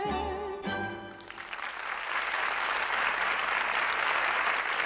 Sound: applause

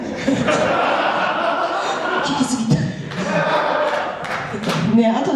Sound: laughs

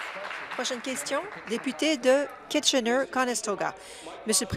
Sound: applause

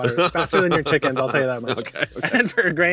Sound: laughs

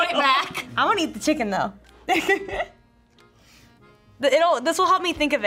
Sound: laughs

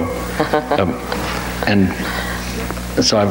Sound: laughs

